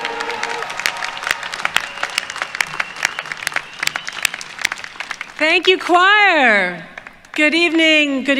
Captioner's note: applause